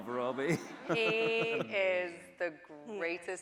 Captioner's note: laughing